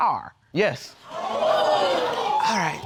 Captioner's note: audience gasps